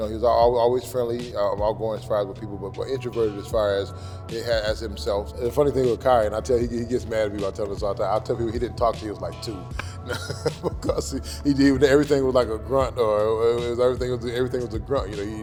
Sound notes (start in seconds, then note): 9.7 laughs